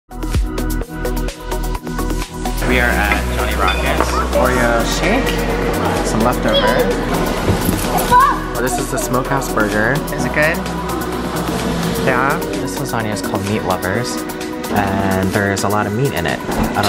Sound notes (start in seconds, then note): 0.4 exciting music; 8.0 child yelling